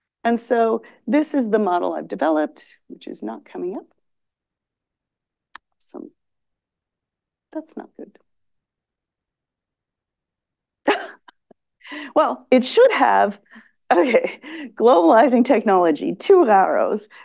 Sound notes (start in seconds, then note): 10.4 laughs